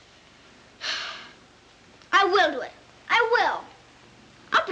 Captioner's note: sighs